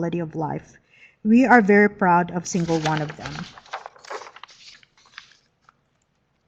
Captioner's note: paper shuffling